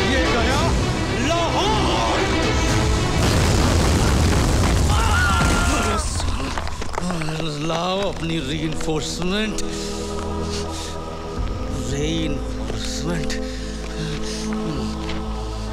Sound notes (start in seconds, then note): 3.1 Explosion